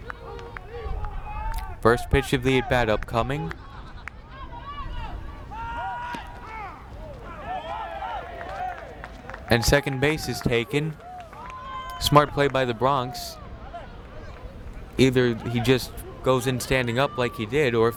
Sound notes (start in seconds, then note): 8.5 players cheer